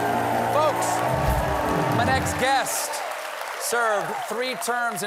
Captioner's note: cheers and applause